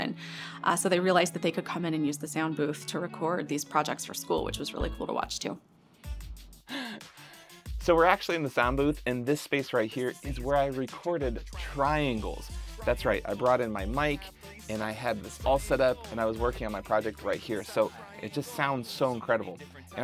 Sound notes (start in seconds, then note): 6.5 laughs